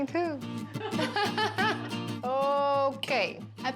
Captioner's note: laughs